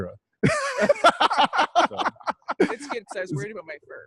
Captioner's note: laughing